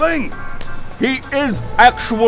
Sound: slap of despair

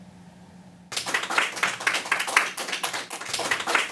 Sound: applause

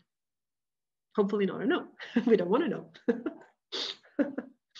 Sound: laughing

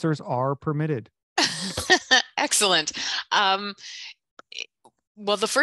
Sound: chuckles

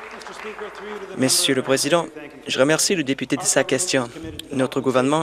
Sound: some Applause

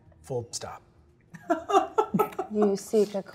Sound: laughing

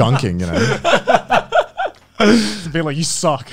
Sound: laughing

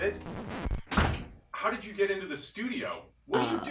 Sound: door close

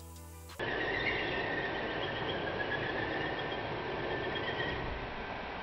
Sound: drill whirring

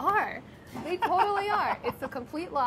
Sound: laughing

